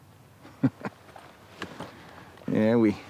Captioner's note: chuckles